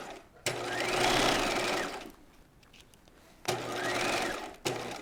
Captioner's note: sewing machine whirs